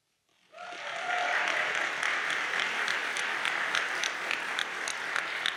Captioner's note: audience applauds